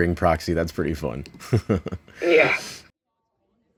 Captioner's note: laughs